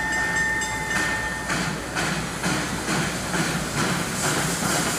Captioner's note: train whirs